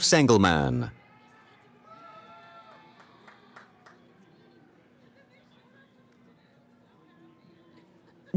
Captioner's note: cheering